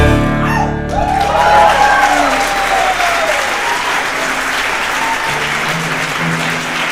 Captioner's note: audience cheering; audience applauding